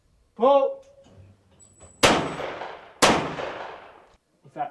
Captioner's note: gun shooting